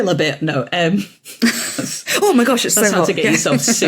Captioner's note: snickers